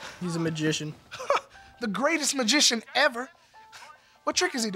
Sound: chuckle

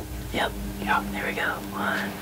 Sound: whispering

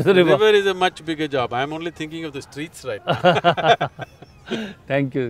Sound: both laugh

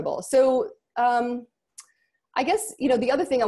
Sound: none

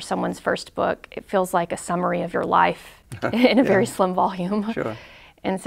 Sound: chuckles

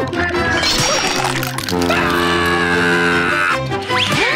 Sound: screaming

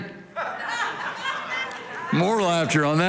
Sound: congregation laughing

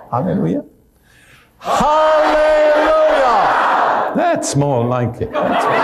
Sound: everyone shouts

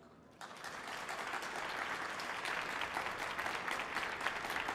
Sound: audience applauding

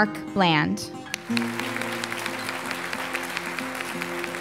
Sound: applause

